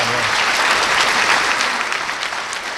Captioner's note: applause